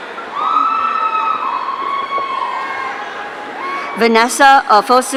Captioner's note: audience cheering